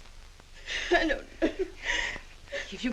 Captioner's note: sobbing